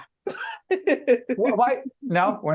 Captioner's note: laughing